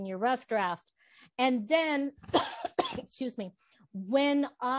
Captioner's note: coughs